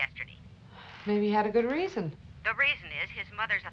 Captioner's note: on phone